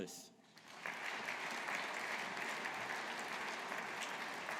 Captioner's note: audience applauding